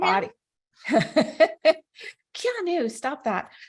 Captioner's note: laughs